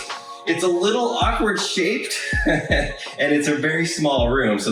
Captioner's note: laughs